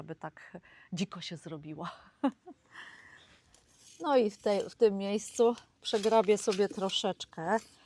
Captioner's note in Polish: śmiech